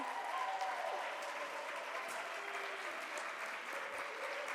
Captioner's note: audience cheers